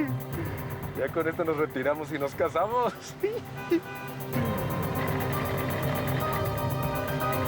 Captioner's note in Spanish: exclamaciones